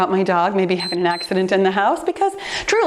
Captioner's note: timer beeps